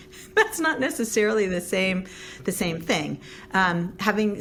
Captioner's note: laughs